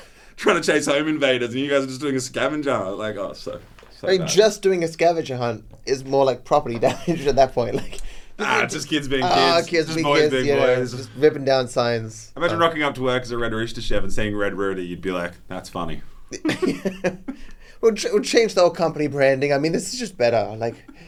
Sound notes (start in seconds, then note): 16.3 laughs